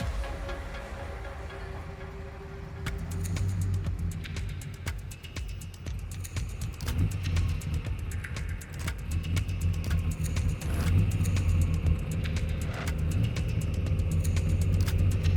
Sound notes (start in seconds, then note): 2.6 car engine revving; 11.5 upbeat music